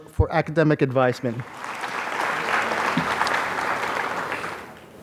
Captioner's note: applause